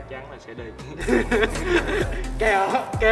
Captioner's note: laughs